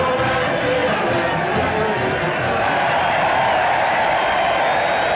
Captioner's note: cheering